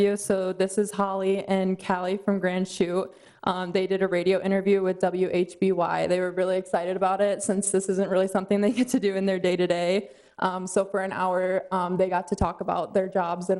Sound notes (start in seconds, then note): none